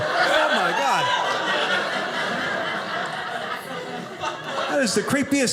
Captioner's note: audience laughing